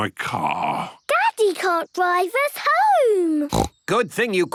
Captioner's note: snorts